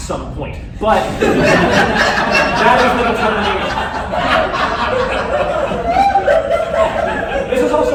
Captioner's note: laughter